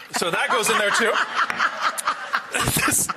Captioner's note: laughing